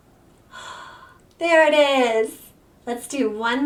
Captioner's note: gasps